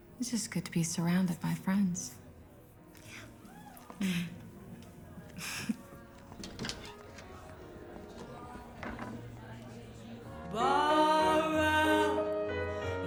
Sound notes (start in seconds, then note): 5.3 laughs